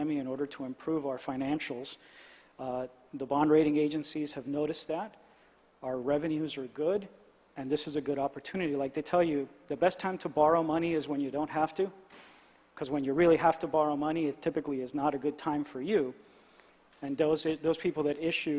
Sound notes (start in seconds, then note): none